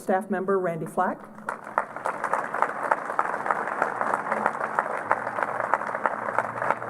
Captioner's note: applause